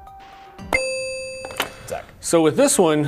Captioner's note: ding